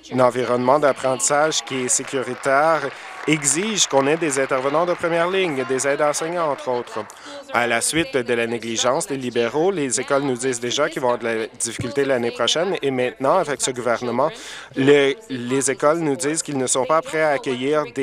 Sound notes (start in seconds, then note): 7.3 applause